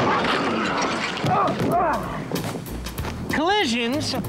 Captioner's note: grunting